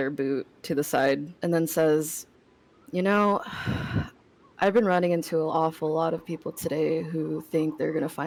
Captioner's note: sigh